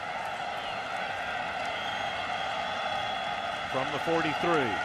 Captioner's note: cheering